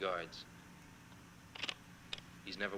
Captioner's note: slide projector clicking